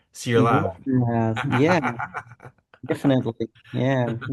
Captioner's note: laughs